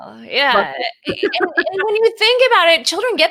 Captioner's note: laughs